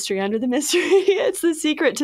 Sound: chuckles

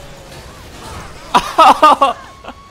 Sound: laughs

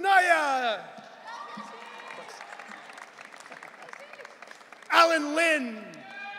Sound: audience cheering

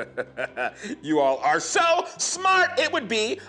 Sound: laughing

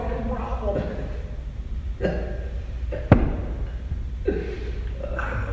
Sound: laughing

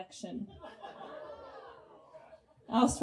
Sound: audience groans in disgust

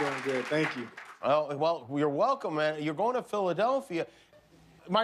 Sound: cheers and applause

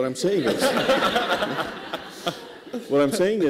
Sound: laughter

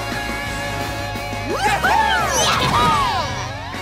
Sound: all cheering

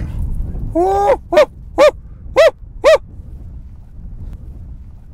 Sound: hunter shouts

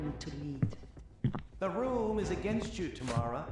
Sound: Heavier-set footsteps approach 47 from behind as Don argues

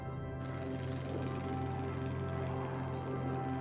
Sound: airplane rumbles

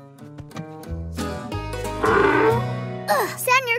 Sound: donkey sound

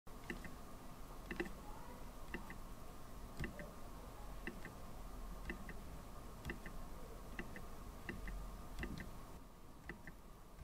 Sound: computer trackpad clicking

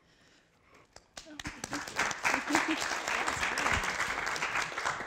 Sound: applause

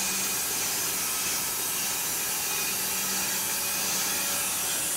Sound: saw blade whirring

